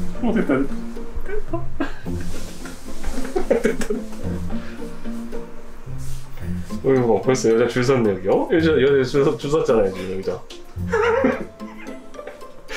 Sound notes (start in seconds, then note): 9.1 is stuttering with jealousy